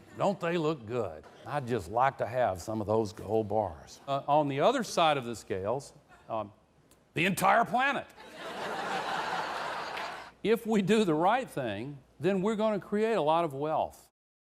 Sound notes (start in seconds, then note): 8.2 izleyiciler güler